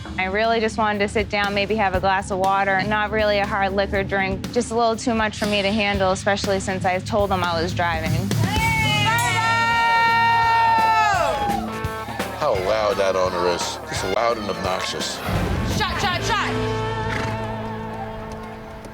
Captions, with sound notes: I really just wanted to sit down, maybe have a glass of water, not really a hard liquor drink. Just a little too much for me to handle, especially since I told them I was driving. [CHEERING] How loud that owner is. Just loud and obnoxious. Shot, shot, shot.